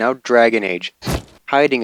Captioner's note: splat